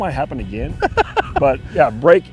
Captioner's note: laughing